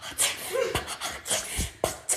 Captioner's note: ha ha ha